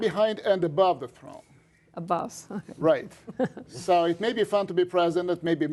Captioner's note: laughter